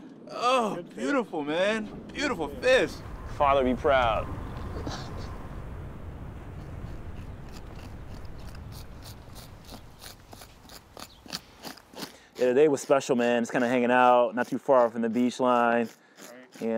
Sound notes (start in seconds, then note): 8.0 scraping scales